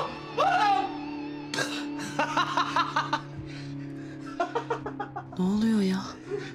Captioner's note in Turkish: Gülüyor